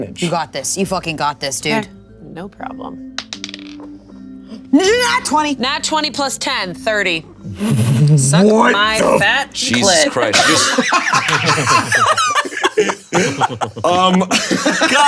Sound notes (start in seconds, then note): 3.2 dice rolling; 10.3 players laughing hysterically